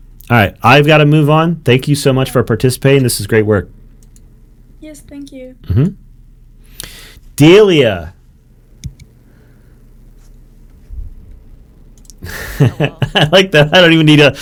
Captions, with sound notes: All right, I've got to move on. Thank you so much for participating. This is great work. - Yes, thank you. - Mm-hmm. Delia. (laughs) I like that, I don't even need a,